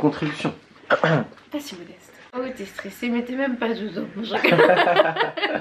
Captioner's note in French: rires